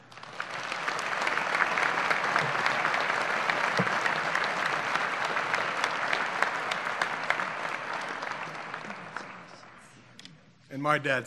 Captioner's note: applause